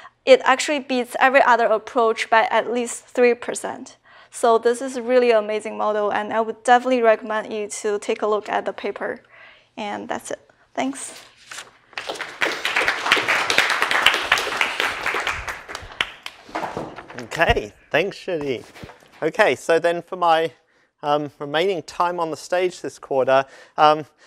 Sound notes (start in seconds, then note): 11.9 applause